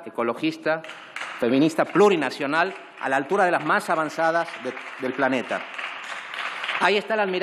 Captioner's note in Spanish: Aplausos